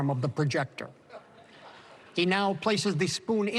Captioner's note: laughter